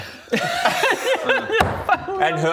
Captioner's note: inappropriate laughter